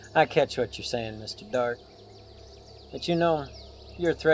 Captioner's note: none